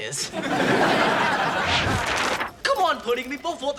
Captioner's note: audience laughs